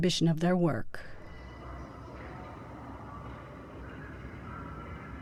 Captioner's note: distant echoing voices